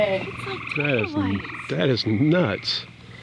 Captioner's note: frogs croak